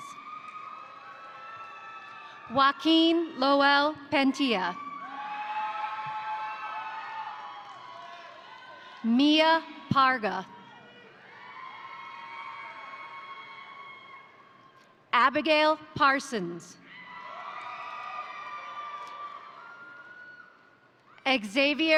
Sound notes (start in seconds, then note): 0.0 crowd cheering; 0.2 crowd applauding; 4.7 crowd cheering; 5.4 crowd applauding; 10.4 crowd cheering; 11.0 crowd applauding; 16.9 crowd cheering; 17.2 crowd applauding